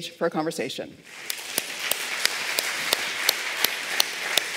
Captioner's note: applause